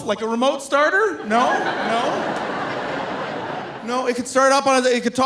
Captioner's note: audience laughing